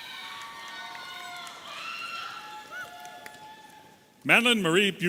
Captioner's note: audience applauding and cheering